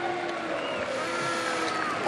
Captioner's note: crowd booing